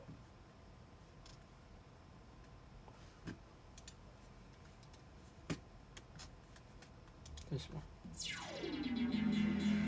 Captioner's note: mouse clickity clacking